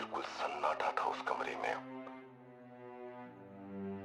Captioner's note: radio